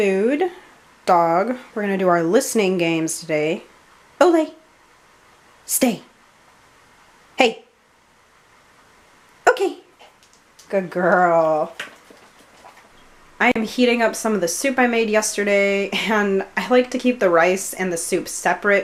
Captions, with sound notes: Food, dog, we're gonna do our listening games today. Ole! Stay! Hey! Okay! (Harlow's nails clicking) Good girl. (Harlow munching) I am heating up some of the soup I made yesterday. I like to keep the rice and the soup separate